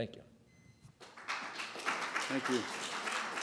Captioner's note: applause